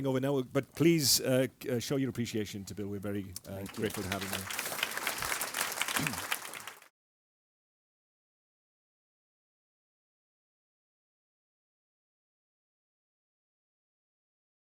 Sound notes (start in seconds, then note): 3.5 applause